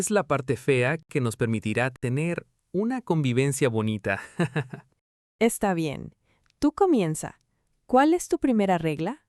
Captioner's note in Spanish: risas